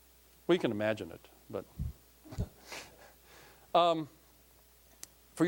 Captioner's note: chuckling